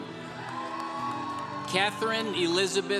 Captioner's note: congregation cheering